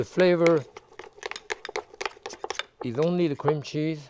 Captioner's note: spoon clinking